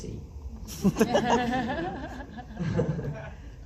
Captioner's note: laughs